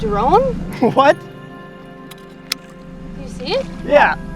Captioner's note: laughs